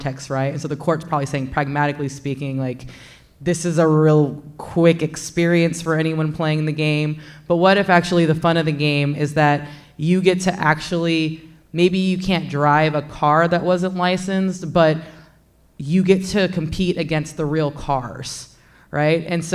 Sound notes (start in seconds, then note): none